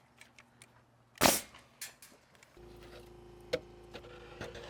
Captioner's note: nail gun clicking